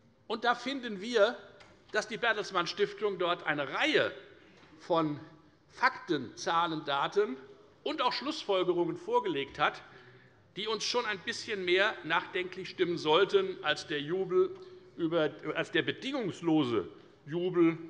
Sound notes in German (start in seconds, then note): none